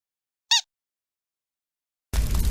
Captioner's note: squeak; fire RAWRING